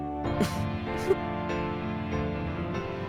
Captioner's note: subdued chuckle